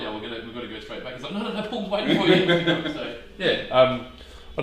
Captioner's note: laughs